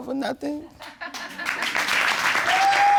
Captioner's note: audience laughs